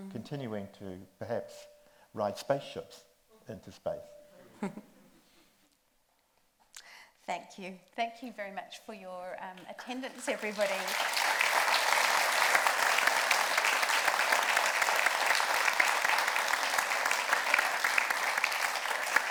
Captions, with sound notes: continuing to perhaps ride spaceships into space. - Thank you. Thank you very much for your attendance, everybody. (audience applauds)